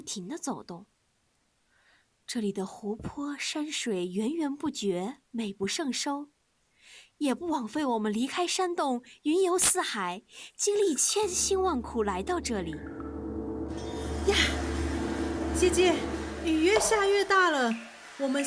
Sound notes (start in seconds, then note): 11.0 ominous music; 11.0 rain storm noises